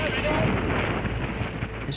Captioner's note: wind whipping